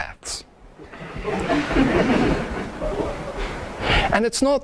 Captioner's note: audience laughs